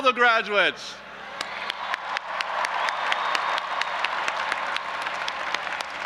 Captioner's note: audience applauding and cheering